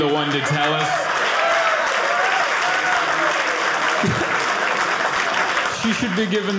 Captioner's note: audience applauding